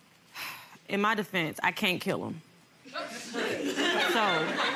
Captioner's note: sighs; audience laughing